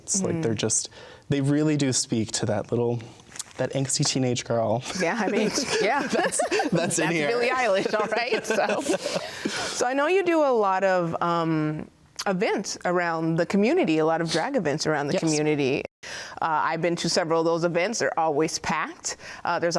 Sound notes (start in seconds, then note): 4.9 laughs; 6.4 both laughing